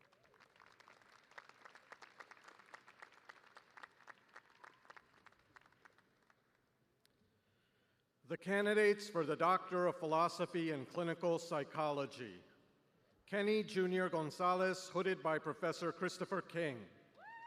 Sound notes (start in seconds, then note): 0.0 applause